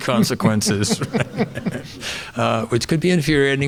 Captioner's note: audience laughing